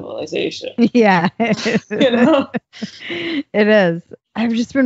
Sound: laughs

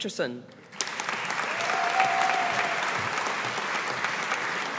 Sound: audience applauding

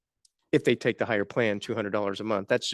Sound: none

